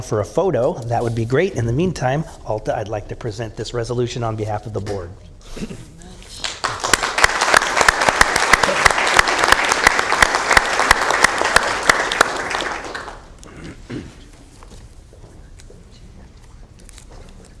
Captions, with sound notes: IMPROVE OUR LOCAL WATERWAYS. YOUR EFFORTS ARE MAKING A POSITIVE DIFFERENCE, WE WOULD LIKE TO THINK COUNTY STAFF INVOLVED IN THE CORONATION, CLEANUP, AND PROMOTION OF CREEK WEEK. IF WE COULD HAVE EVERYONE WHO'S INVOLVED WITH CREEK WEEK COME DOWN FOR A PHOTO THAT WOULD BE GREAT. IN THE MEANTIME I PRESENT THIS RESOLUTION ON BEHALF OF THE BOARD. [ APPLAUSE ]